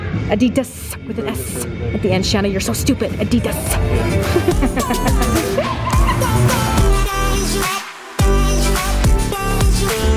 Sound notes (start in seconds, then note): 4.0 laughing; 6.3 upbeat music